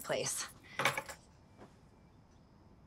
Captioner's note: key clinks